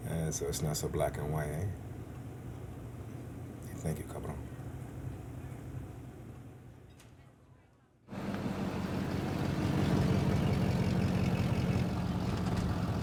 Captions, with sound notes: - Yeah, so it's not so black and white, eh? Hey, thank you, cabrón. (car engine rumbling)